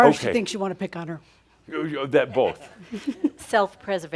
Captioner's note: giggles